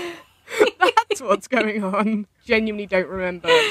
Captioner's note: laughing